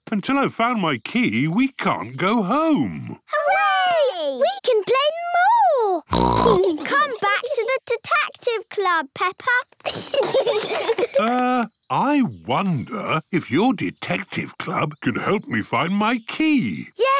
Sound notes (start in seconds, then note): 6.1 snorts; 9.8 giggling